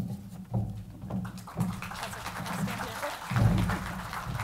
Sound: crowd applause

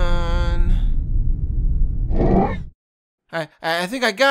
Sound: Force noises

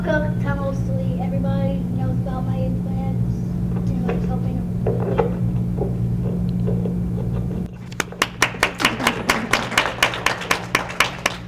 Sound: applause

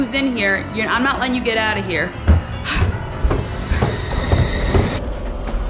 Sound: sigh; eerie instrumental music

